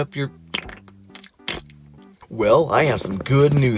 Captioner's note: wet raspberry